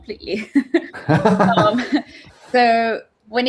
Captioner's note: laughs